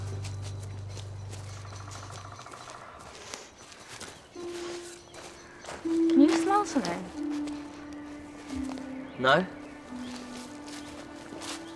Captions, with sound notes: [sniffing] Can you smell something? No.